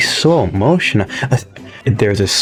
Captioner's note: inhales Oxygen